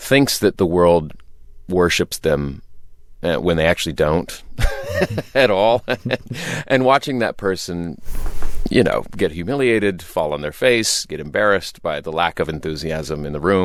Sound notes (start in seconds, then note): 4.6 laughter